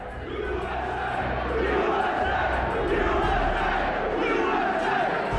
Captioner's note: crowd